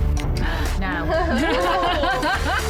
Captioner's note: gasping; laughing